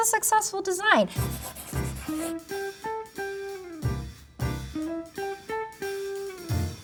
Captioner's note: upbeat music; graphic scratching